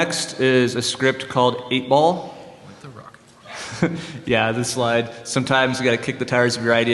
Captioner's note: laughter